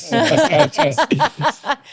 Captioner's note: laughing